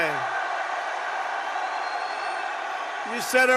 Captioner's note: applause